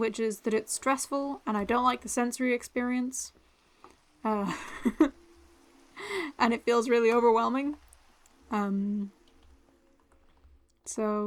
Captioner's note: laughter